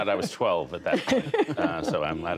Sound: laughter

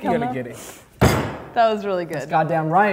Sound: slamming table

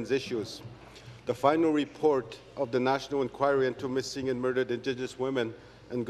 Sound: remarks in Oji-Cree

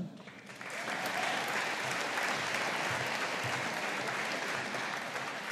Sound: audience applauding

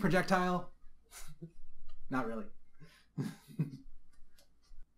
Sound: chuckling

